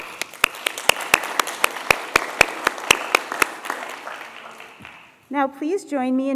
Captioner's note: applause